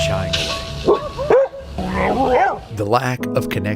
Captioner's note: Garbanzo barking